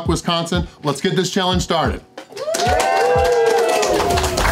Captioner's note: crowd cheering